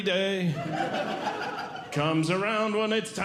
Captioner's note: audience Laughing